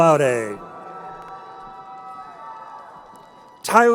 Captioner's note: crowd cheering